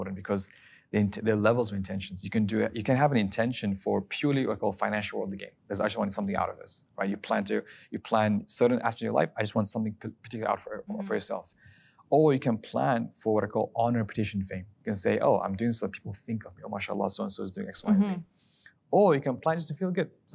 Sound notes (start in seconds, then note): 16.8 speaking Arabic